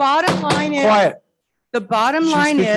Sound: gavel pounding

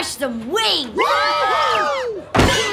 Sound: cheering

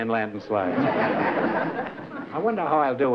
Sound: laughter

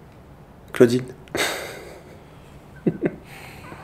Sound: laughs

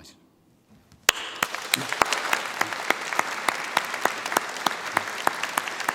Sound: audience applauding

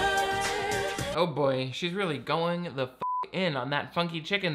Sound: beep

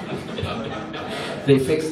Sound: audience laughs

